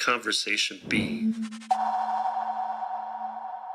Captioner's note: spacey tones